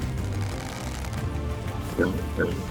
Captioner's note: crackles; pig grunting